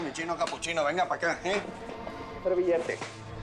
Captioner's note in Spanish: Palmadas